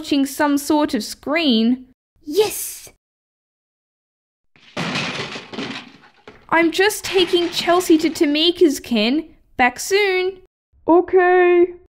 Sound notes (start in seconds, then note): 4.6 bang!; 4.6 crash!